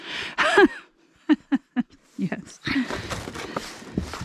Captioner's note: laughs